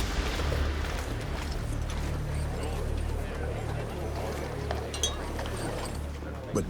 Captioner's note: chatter